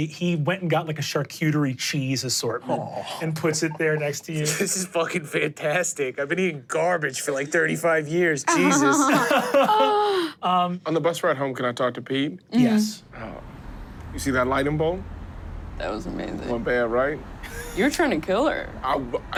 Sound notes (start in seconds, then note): 8.5 laugh